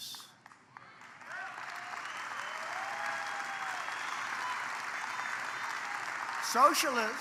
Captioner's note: applause